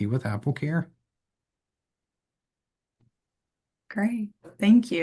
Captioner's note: silence